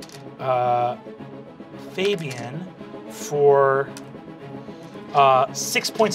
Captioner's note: dice clacking